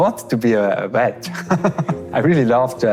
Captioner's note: laughs